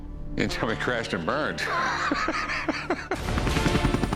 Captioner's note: laughs